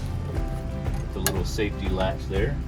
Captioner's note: latch clicks